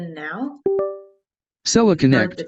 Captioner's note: computer chimes